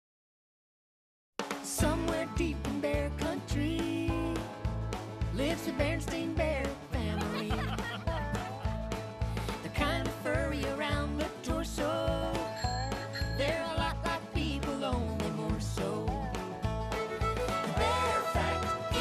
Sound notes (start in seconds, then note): 9.9 laughing; 12.4 bell Rings